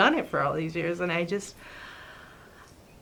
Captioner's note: long sigh